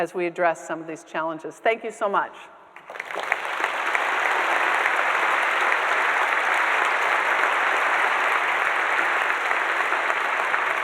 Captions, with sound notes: as we address some of these challenges. Thank you so much. (audience applauding)